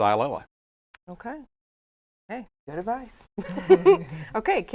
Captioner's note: chuckles